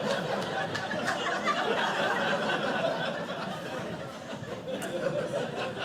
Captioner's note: audience laughing